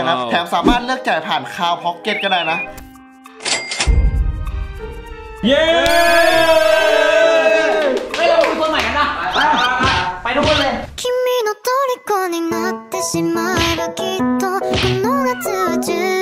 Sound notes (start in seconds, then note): 5.4 applauding; 5.5 cheering; 9.6 pat; 11.0 romantic song playing